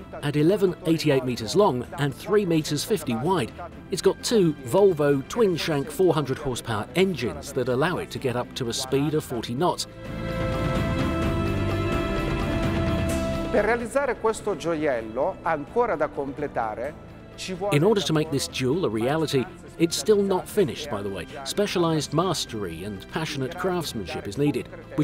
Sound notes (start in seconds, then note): 10.5 adventurous music; 13.7 speaks in foreign language